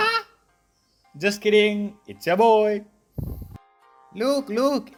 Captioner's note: angry breathing noises